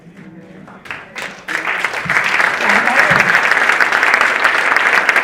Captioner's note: audience applauding